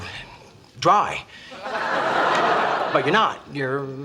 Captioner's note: audience laughs